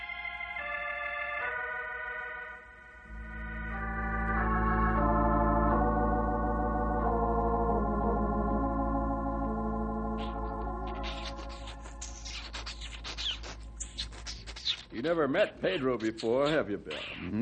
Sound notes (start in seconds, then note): 0.7 eerie music; 6.0 pig squealing